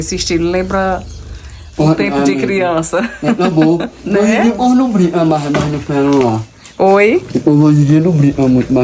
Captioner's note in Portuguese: risadas